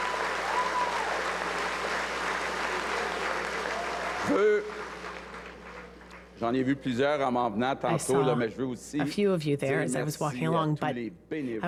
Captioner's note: cheers and applause